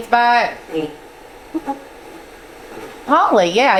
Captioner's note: static sound